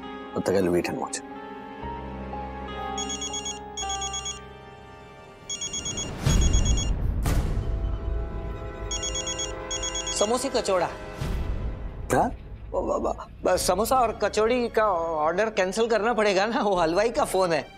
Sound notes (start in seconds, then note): 2.8 phone ringing; 6.9 dramatic music playing